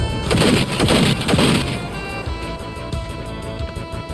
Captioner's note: gunshots firing